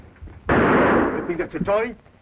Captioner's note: gun fires